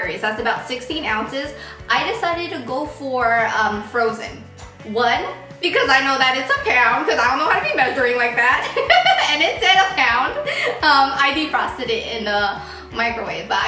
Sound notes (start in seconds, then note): 8.5 laughing